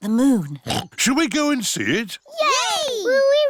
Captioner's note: oinks